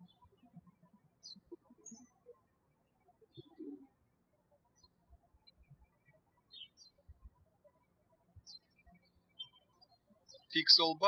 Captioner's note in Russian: птички щебечут